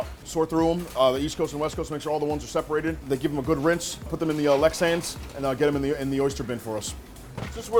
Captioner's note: none